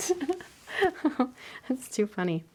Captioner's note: laughing